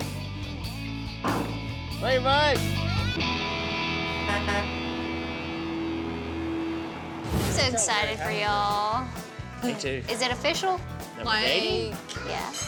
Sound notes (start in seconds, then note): 4.0 honk honk